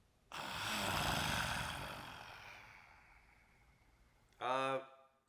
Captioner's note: actor exhales gravelly